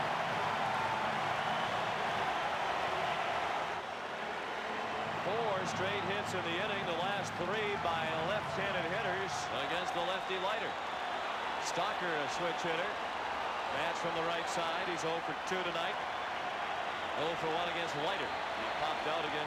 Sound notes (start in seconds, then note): 0.9 applause; 2.2 cheering and Applause